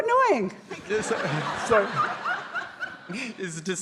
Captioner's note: audience laughing